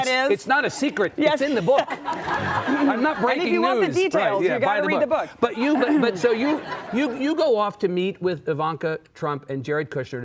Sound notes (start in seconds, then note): 5.4 audience laughing